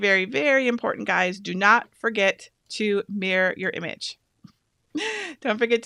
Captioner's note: laughs